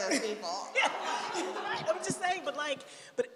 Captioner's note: laughter